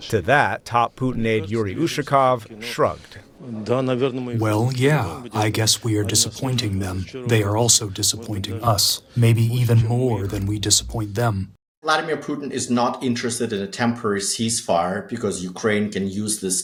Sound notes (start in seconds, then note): 5.3 through translator